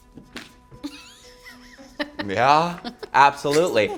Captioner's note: laughing